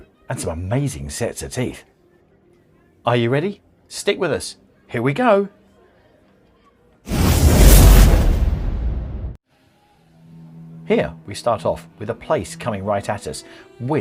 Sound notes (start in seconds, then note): 7.0 whooshing